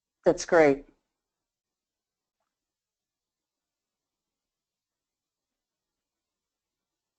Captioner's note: silence